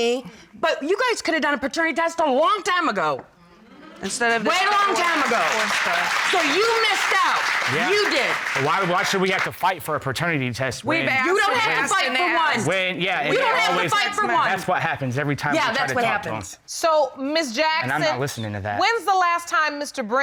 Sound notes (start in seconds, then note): 4.0 audience applauding; 12.1 overlapping chatter